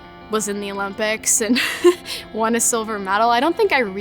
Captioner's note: laughs